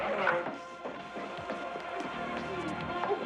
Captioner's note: television playing loudly